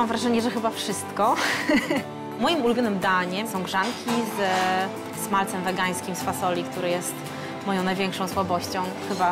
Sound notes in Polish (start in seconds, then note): 1.3 śmiech